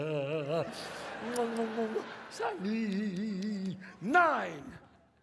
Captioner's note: sobs; audience laughs; kisses, sobs